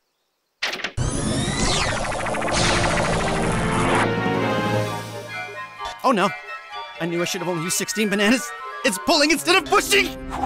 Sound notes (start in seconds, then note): 1.0 powering up